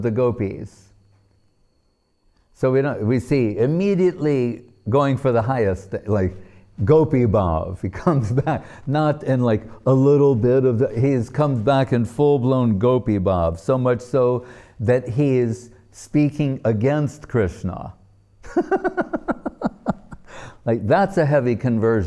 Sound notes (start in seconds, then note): 18.5 laughing